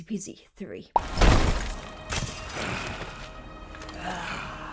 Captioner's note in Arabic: دوي مدوٍ